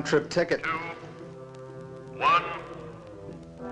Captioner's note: loudspeaker